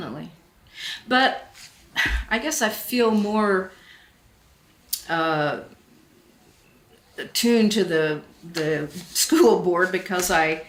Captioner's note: sighs